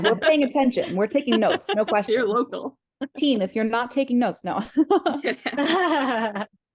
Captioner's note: laughter